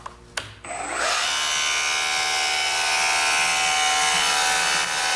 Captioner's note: mechanical whirring